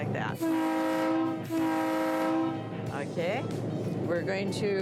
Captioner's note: train horn honking